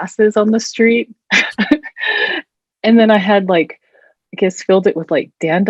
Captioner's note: chuckles